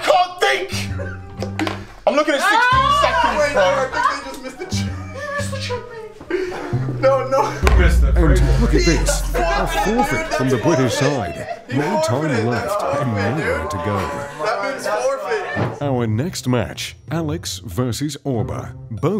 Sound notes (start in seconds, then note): 2.1 yelling; 3.0 laughter; 8.0 group conversation drowning out narrator